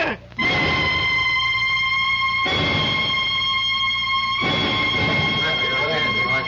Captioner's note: siren blaring